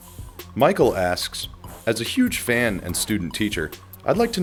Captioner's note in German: Voice-over